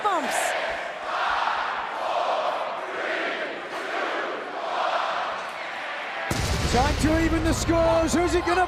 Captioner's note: crowd cheering